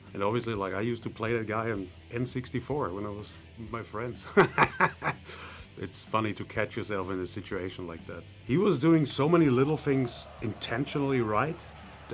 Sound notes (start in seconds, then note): 4.3 laughs